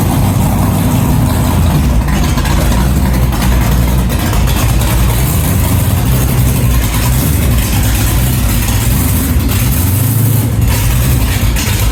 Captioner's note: engine Running